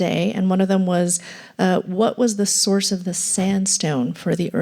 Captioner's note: none